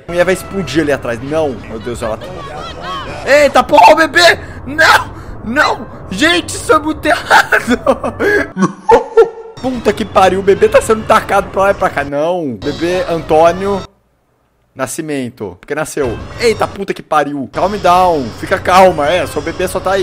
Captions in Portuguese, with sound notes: A muié vai explodir ali atrás NÃO Meu deus. EITA PORRA O BEBÊ!!! NÃO! NÃO! Gente isso é muito errado (risada) Pulta que pariu o bebê tá sendo tacado pra lá e pra cá NÃO O bebê Antônio Nascimento porque nasceu Eita puta que pariu Caum dãun, Fica calma! É, seu bebê só tá ai